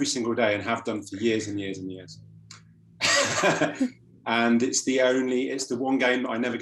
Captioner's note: laughs